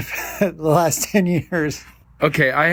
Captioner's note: laughing